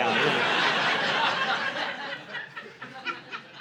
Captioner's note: audience laughing